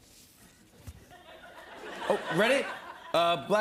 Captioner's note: laughter